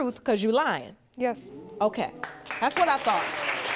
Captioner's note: audience applauds